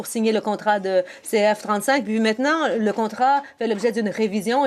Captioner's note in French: voix de l'interprète